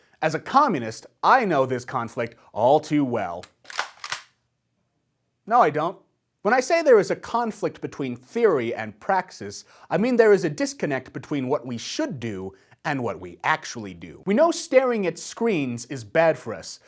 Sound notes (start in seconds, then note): 3.4 gun cock